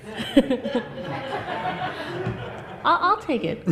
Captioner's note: audience laughs